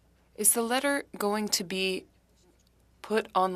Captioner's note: speaking French